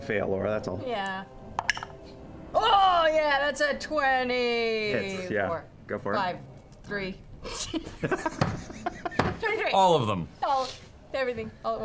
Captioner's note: laughs